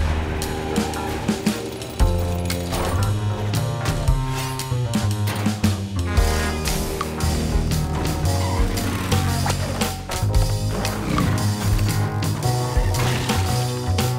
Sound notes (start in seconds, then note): 0.0 tires screeching; 7.1 engine revving; 12.8 crashing